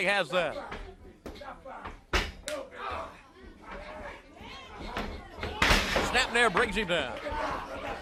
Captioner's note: crowd chatter